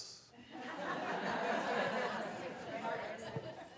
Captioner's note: laughing